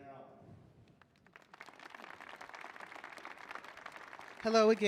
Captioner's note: audience clapping